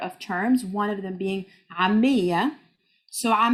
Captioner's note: speaking Arabic